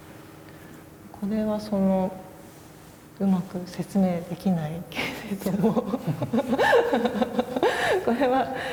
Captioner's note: laugh